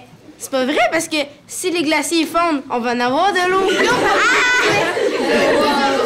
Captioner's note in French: réactions des élèves